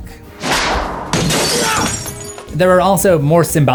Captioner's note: glass breaks